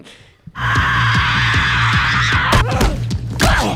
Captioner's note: screams; grunts